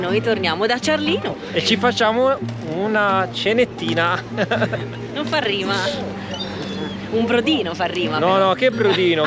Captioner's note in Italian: risate